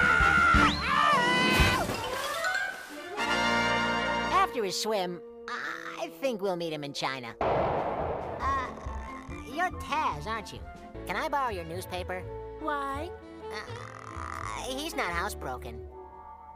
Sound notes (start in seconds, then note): 0.0 screaming; 1.9 victory music; 7.4 explosion